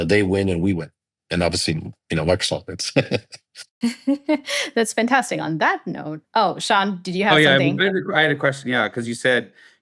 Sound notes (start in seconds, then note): 2.6 chuckles